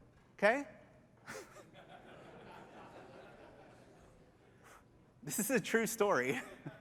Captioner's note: laughter